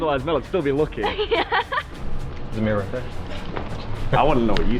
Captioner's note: laughing